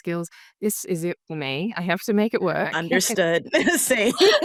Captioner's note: all chuckling